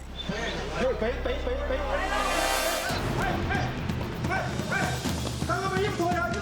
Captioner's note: tourists yelling in foreign language